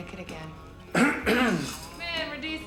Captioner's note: Ernie clears throat